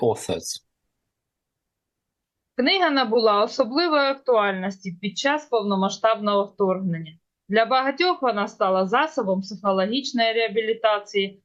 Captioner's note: foreign language